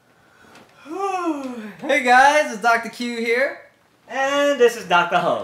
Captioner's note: yawning